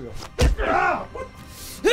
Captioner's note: crack